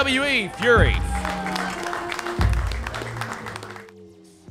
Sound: clapping

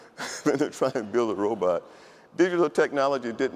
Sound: laughs

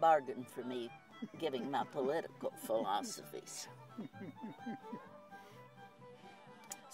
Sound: chuckles

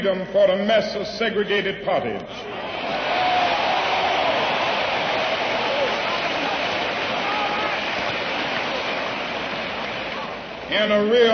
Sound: applause

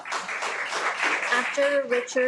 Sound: everyone applauds

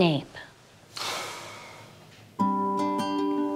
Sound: exhale

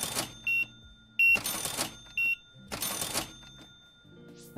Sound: beeping

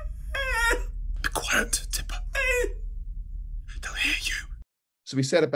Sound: whisper

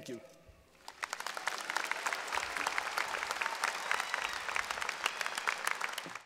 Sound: applause

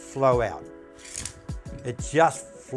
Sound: clasp clicks

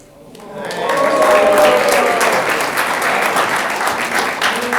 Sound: audience clapping

